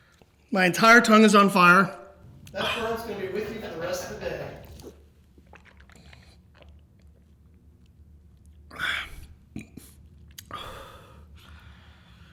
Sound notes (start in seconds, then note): 5.2 water swishing; 10.2 burps